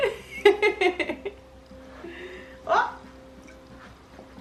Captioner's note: laughs